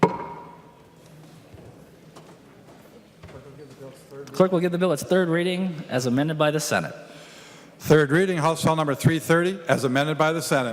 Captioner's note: gavel